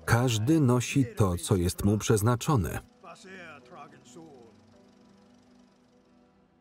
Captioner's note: speaking in foreign language